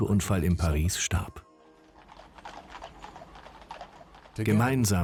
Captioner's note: horses' hooves clomping